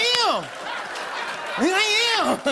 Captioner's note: laughter